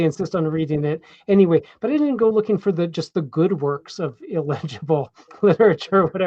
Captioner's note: chuckles